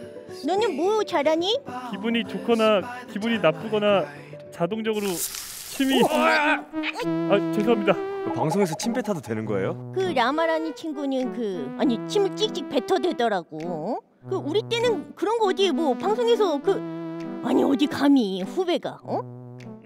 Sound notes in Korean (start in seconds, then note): 5.0 쏴아